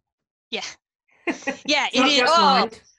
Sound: laughs

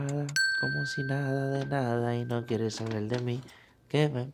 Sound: singing in foreign language; positive beep

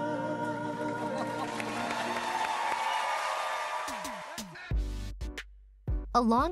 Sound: audience applauding; audience cheering

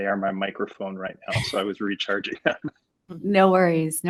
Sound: laughs

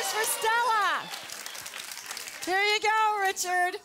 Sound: audience applause

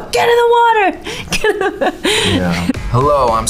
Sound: laughs

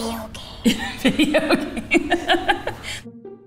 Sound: laughing; cheerful music

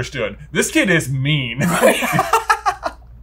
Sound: laughs

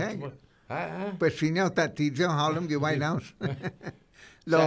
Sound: laughing

